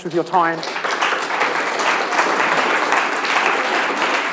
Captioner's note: applause